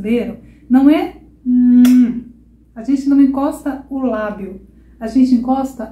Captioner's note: kissing sound